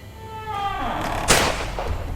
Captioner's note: door creaking; dramatic music